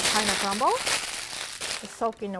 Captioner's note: parchment crinkling